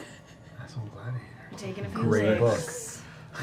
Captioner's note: whispers